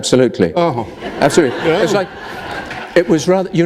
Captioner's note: laughter